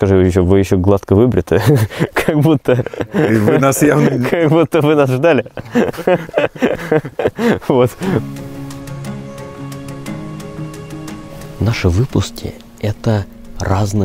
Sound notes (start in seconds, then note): 5.8 laughing